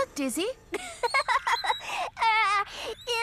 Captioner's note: giggling